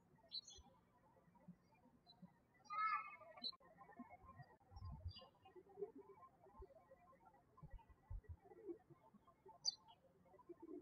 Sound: birds chirping

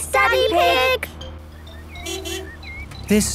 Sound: honking

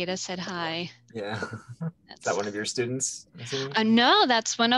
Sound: chuckles

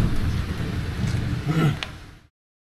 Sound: grunt

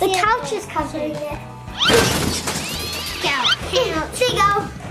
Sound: crashing sounds and cat screaming sound

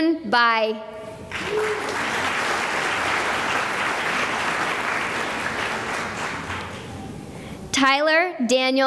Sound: applause

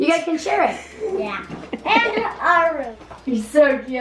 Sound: chuckles

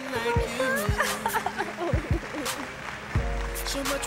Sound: laughter

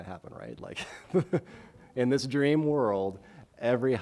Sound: chuckles

